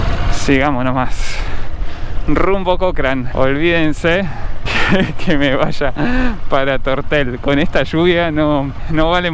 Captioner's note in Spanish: risas